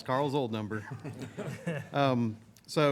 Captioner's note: laughter